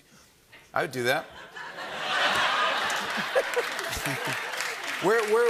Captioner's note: laughter and applause